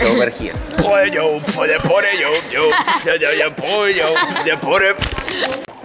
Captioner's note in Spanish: beatboxing